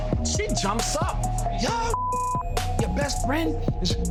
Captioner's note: beep